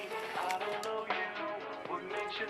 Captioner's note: none